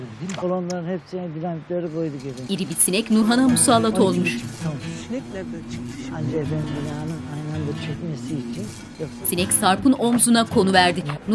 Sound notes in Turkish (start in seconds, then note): 2.6 Sinek vızıltı sesi; 6.5 Sinek vızıltı sesi; 8.8 Müzik - Gitar